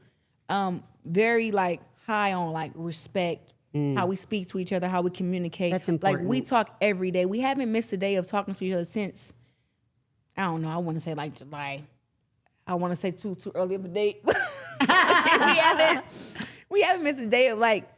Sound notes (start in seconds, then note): 14.7 everyone laughs